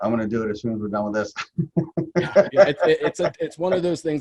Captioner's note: laughs